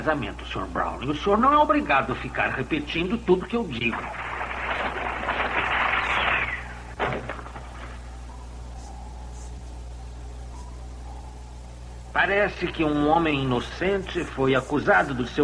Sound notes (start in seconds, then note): 6.0 objects Splashing